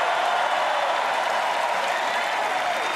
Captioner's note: cheering